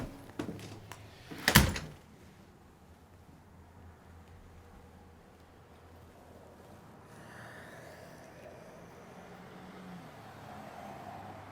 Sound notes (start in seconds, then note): none